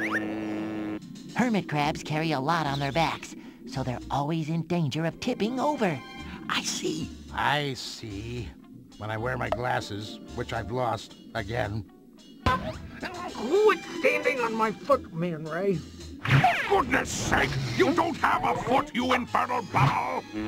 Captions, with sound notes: Hermit crabs carry a lot on their backs, so they're always in danger of tipping over. [whispers] I see! I see... when I wear my glasses, which I've lost again. Who is standing on my foot, Man Ray?! [yells loudly] For goodness sake, you don't have a foot you infernal bubble!